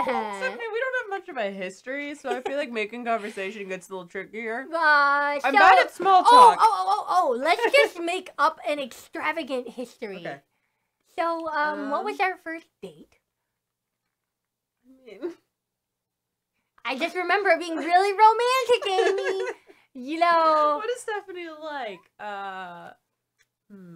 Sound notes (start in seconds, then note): 0.0 both chuckle; 18.5 laughs